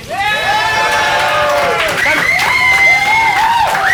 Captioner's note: cheers